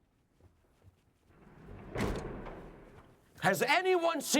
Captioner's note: door slams shut